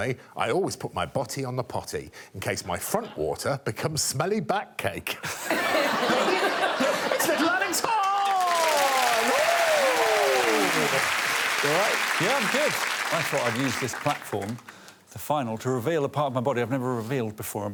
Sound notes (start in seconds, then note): 5.3 all laughing; 8.7 crowd cheers